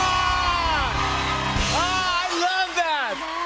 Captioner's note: cheers and applause